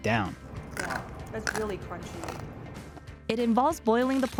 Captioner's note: crunch